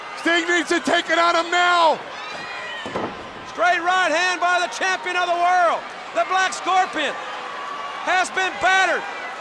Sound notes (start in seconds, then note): 3.1 Black Scorpion thudding on ring